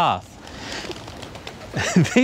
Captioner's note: interrupted by a flock of pigeons